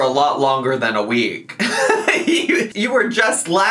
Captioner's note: laughs